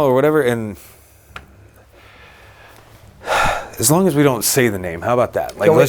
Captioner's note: sighs